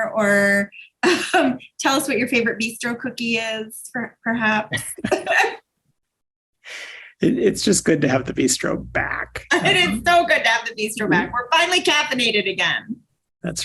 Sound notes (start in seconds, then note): 4.5 both laugh